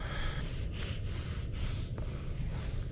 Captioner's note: hyperventilating